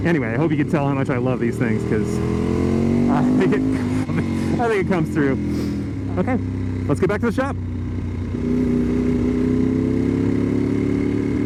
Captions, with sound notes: Anyway, I hope you can tell how much I love these things, 'cause... (confused noises of elation) I think it comes through. Ok! Let's get back to the shop!